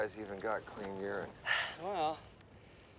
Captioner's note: sighs